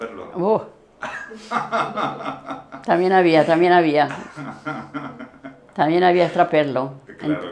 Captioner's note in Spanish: risas